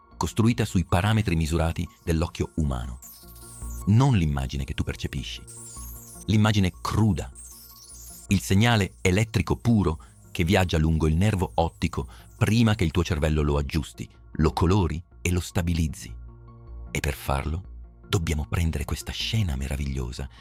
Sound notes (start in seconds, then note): 9.5 electrical signal